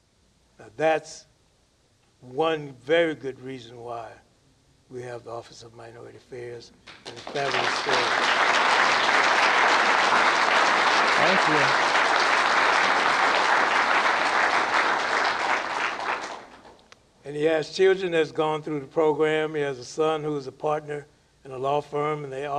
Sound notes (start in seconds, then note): 10.6 applause